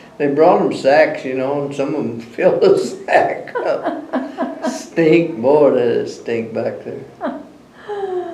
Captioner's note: laughter